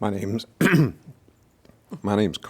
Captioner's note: clears throat